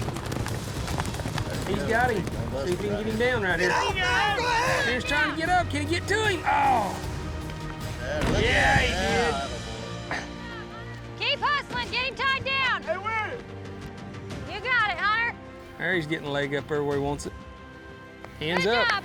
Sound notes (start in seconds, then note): 0.3 hoofbeats; 8.2 thuds down